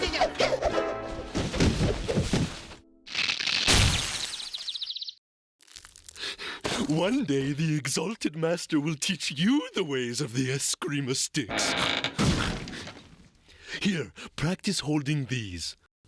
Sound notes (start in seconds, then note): 4.5 birds chirping